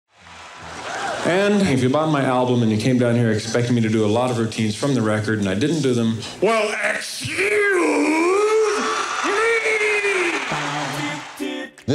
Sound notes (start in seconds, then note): 8.0 audience laughs and cheers; 9.3 upbeat music playing